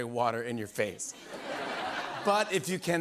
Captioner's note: laughter